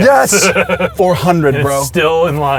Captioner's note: laughs